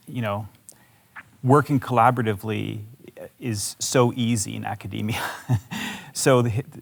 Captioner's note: chuckles